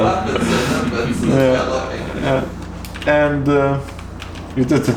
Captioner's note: distant chatters